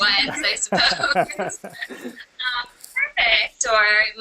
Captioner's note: laughter